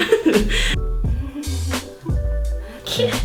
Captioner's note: nervous laughter; laughter in background; laughing